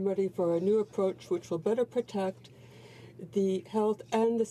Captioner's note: speaking french